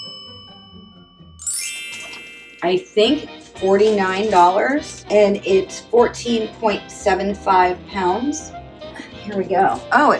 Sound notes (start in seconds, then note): 2.7 fairy bell noise